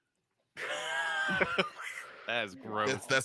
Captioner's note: laughs